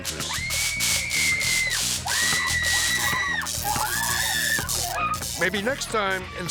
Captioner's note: electricity crackling; woman screaming